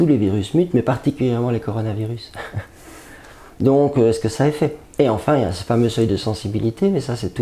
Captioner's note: laughter